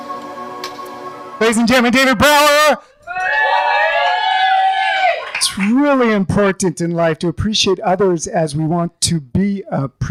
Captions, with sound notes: - David Brower. (cheering) It's really important in life to appreciate others as we want to be appreciated.